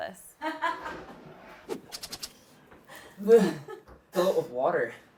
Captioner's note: assistant laughing